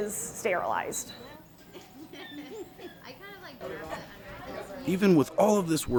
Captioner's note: people chattering